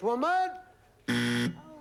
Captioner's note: buzzer